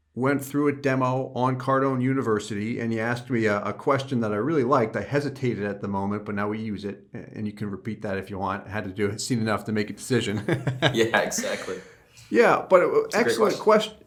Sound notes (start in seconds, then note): 10.3 laughter